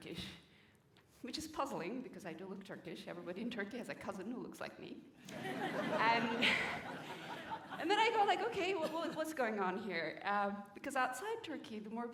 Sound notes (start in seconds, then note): 5.2 laughter